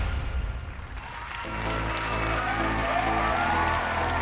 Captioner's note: cheers and applause